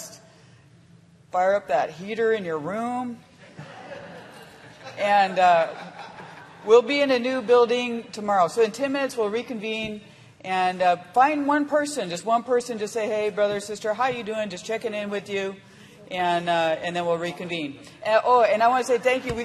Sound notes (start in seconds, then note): 2.6 laughter